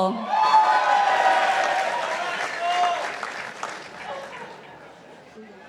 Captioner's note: participants applauding